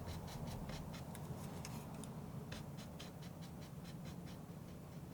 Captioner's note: scratching